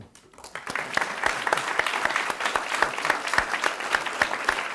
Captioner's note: audience applauding